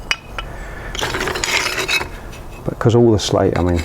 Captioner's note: slate rattles